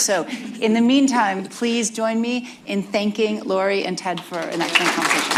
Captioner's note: applause